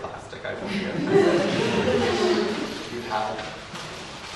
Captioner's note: audience laughs